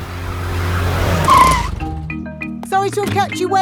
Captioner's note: brakes squeal